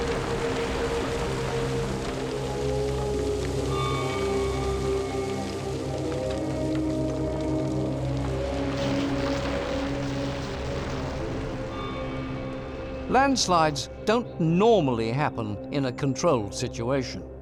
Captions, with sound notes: [earth churning] Landslides don't normally happen in a controlled situation.